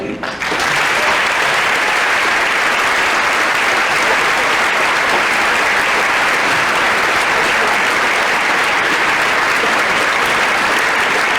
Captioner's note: applause